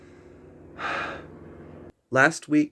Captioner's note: sigh